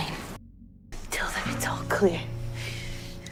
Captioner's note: voiceover